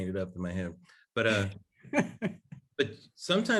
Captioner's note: laughs